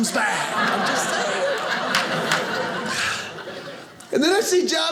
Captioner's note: audience laughing